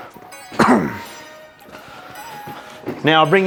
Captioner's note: coughs